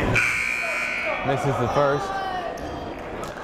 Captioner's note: buzzer blaring